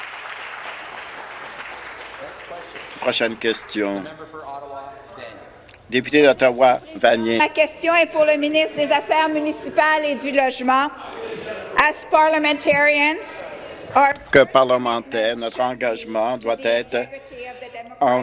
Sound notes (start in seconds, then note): 0.0 voice trailing; 1.8 applause; 9.3 speaking in French